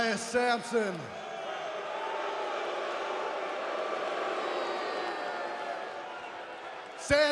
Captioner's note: crowd cheering